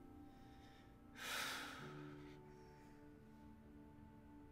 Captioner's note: Mark sighs